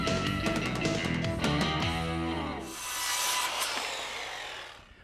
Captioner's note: circular saw buzzing